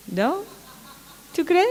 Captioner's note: laughter